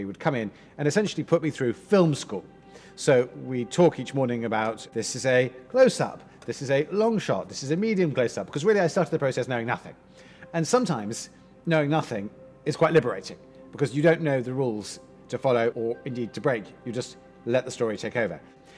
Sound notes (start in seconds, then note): none